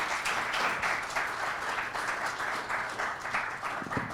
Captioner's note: audience clapping